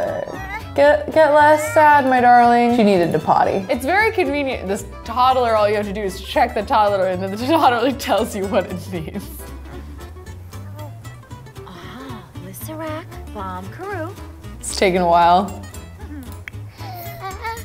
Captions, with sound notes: Get less sad, my darling. She needed to potty. It's very convenient this toddler, all you have to do is check the toddler and then the toddler tells you what it needs. (Chelsea speaks Simlish) It's taking awhile.